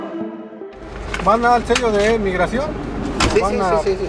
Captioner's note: military official in Spanish